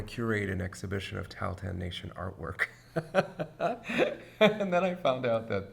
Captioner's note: laughs